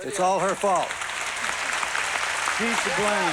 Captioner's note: applause